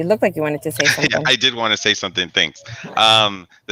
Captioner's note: laughs